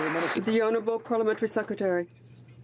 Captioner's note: some Applause